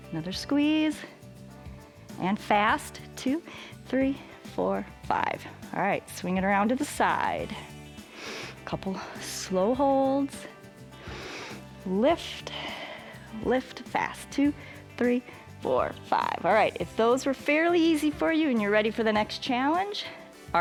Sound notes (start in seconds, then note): 10.9 exhales; 10.9 inhales